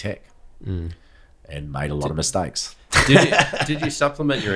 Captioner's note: laughs